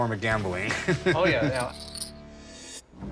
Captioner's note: laughs